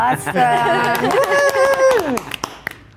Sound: clapping

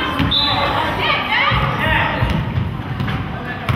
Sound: whistle blows

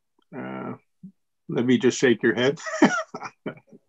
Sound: laughs

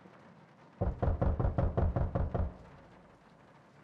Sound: knocking

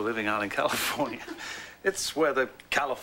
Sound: laughs

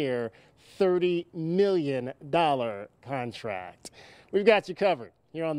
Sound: sigh

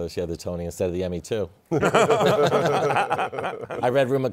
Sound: laughter

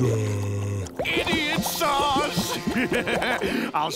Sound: laughing

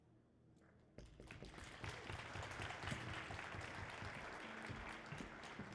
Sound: audience applauding

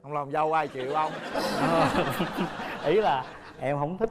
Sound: laughing

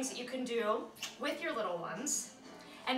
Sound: kisses

